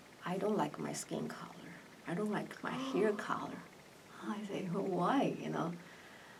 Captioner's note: gasps